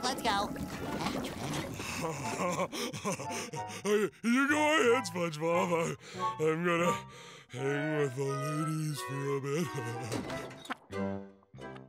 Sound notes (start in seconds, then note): 1.4 laughs crudely; 9.2 laughs